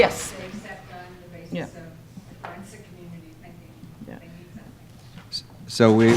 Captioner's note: female speaking off microphone